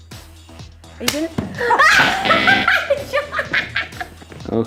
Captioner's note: laughing